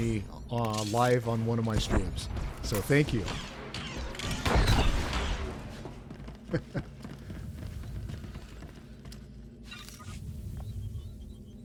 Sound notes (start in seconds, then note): 4.7 gunshots; 6.4 laughs